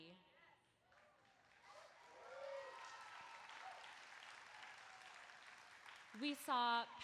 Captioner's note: applause